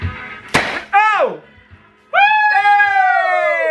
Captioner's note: upbeat pop music; confetti launcher popping; cheering